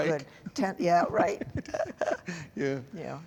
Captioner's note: laughter